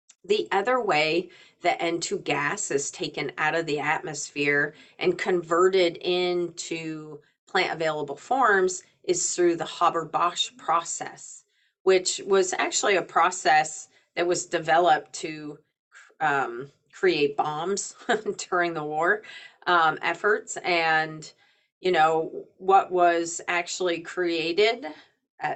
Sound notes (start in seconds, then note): 17.1 chuckling